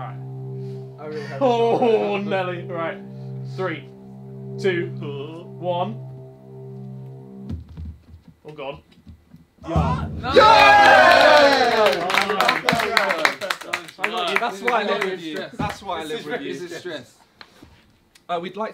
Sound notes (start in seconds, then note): 0.0 tense music continues; 10.2 all cheering and clapping